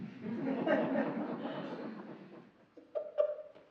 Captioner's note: laughing